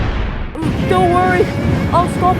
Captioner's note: screams